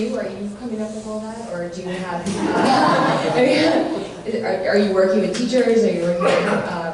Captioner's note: laughter